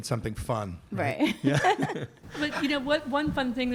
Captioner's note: laughter